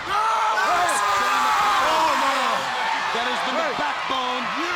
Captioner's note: Luger yells